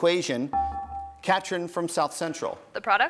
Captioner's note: bell rings